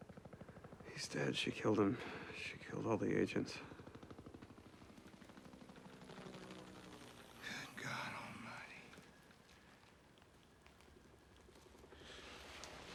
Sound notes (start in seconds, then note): 4.3 helicopters